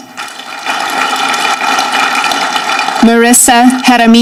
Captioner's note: audience clapping